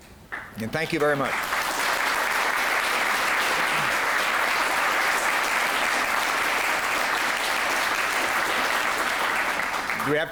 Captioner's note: applause